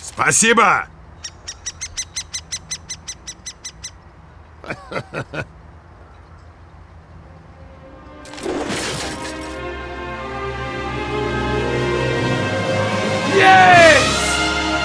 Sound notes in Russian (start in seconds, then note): 0.9 пение птиц; 4.6 нервный смешок